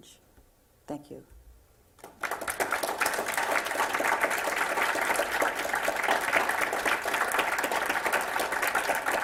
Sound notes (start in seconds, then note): 1.9 applause